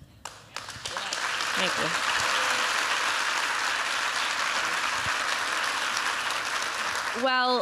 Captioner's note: applause